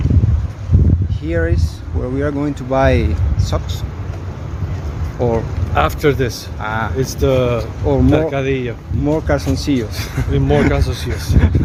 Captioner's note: laughs